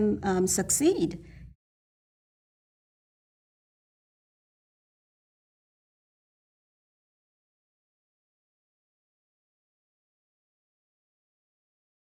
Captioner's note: no Audio/Silence